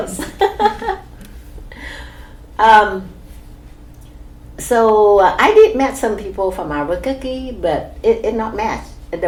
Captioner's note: laugh